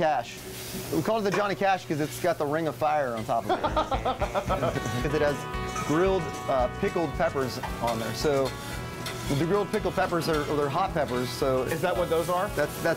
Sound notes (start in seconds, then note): 3.4 laughter